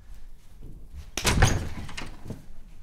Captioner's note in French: Ouverture porte